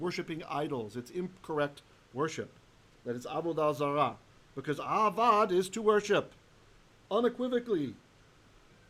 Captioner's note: Hebrew